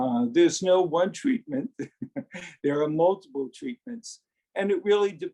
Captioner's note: laughs